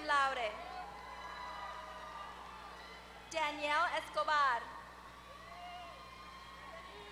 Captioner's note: applause